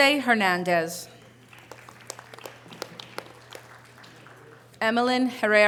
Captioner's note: audience applause